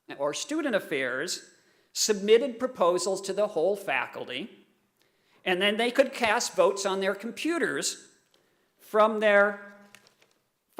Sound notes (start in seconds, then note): none